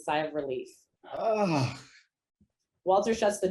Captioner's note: sighs